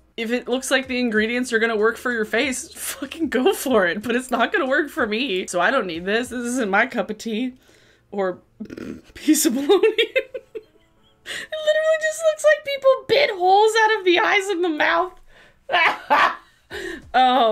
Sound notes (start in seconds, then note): 8.3 snorts; 9.4 laughs; 15.7 laughs